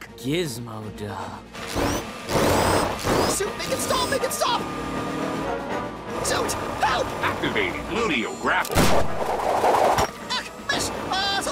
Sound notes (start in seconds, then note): none